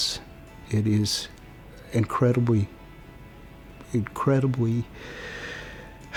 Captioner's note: sigh